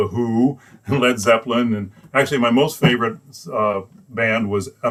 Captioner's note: laughs